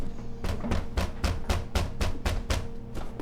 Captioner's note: loud knocking